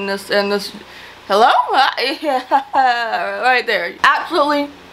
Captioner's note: laughs awkwardly